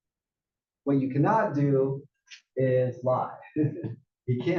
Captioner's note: laugh